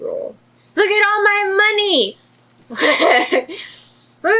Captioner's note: laughs